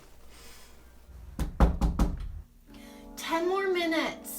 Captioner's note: door knocking